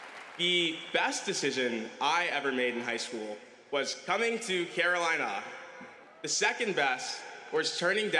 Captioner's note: applause